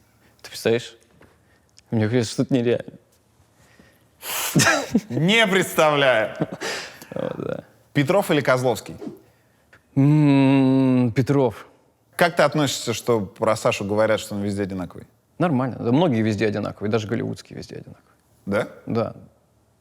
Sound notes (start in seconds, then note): 6.2 laughs